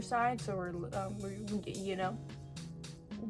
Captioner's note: stammers